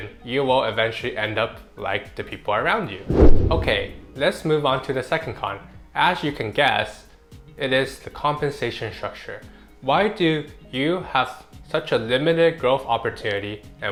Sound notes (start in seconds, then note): 2.9 swoosh